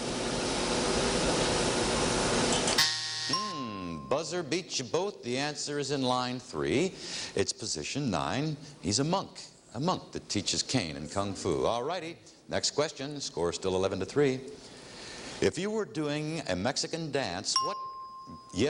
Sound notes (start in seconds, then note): 2.7 bell ringing; 2.8 buzzing; 17.5 ringing bell